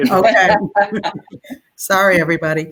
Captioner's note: laughter